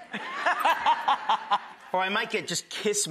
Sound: laughing

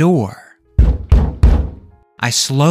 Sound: knocking

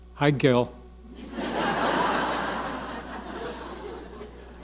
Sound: audience laughing

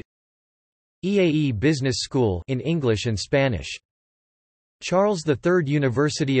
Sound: in English and Spanish

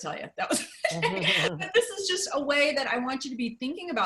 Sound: laughter

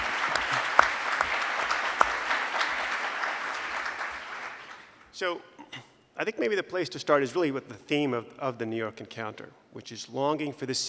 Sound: applause

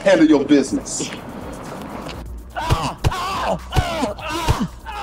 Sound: club thudding; Malik screaming

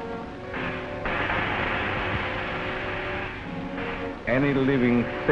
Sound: ray crackling

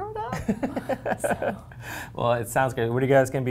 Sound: laughs

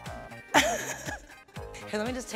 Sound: Awkwafina laughs

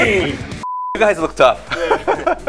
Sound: laughing; beeps; laughs

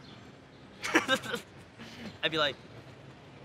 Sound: laughs

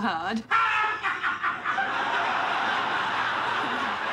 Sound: Martin roaring with laughter

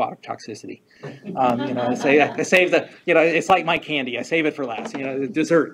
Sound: chuckles; all laughing

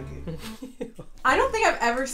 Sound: laughs

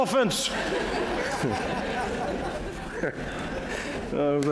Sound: laughter

